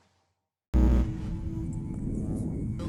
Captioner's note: buzzing